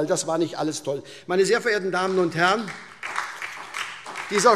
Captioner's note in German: Beifall SPD und DIE LINKE